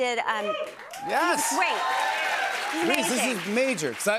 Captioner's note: cheers and applause